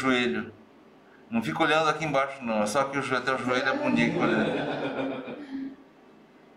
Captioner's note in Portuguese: risos